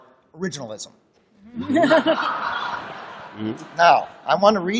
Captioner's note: laughter